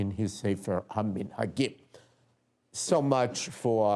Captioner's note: non-english speech